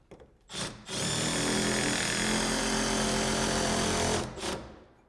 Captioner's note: screw drill whirring